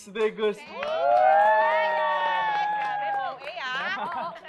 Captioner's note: cheering, clapping; chuckles